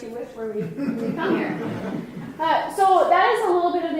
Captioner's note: mild laughing